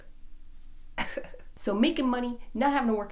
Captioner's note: laughs